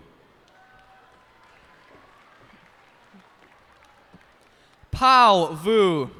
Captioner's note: cheers and applause